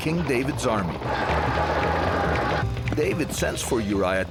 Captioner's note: horses racing